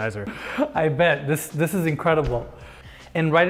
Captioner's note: chuckling